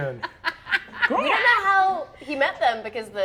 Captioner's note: laughs